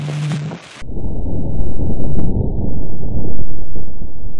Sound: low rumbling

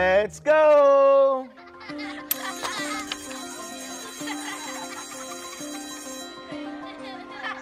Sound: children giggling; school bell rings

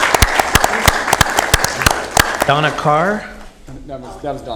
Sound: applause

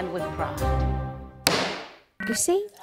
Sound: bang

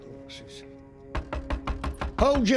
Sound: knocking

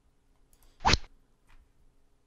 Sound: rod sound

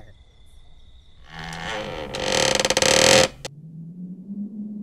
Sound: creak

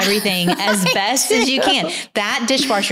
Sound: laughs

